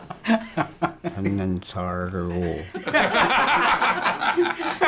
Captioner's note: non-english speech